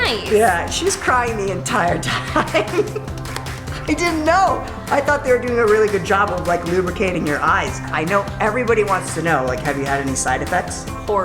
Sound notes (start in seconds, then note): 1.9 laughter